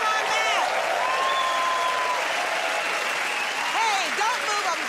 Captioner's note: cheers and applause